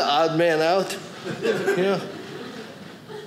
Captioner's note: audience laughing